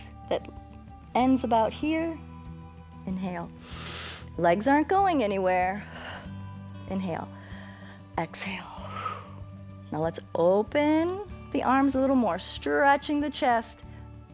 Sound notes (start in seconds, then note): 3.6 inhales; 8.7 exhales